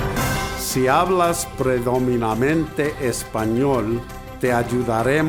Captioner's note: in Spanish